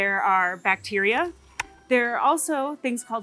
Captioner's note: lens clicks